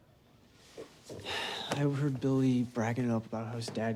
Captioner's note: sighs